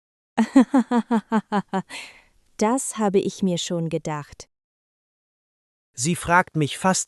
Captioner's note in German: laughs